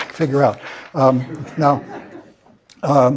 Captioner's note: laugh